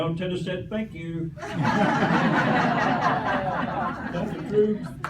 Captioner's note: laughter